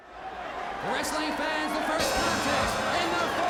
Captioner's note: crowd chatter